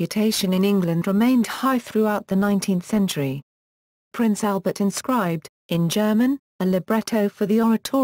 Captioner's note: in German